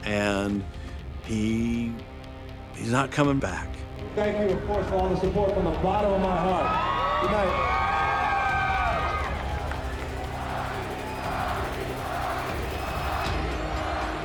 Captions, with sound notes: and he's not coming back. Thank you, of course, for all the support from the bottom of my heart, goodnight. (crowd cheering) (dramatic music) (crowd chanting)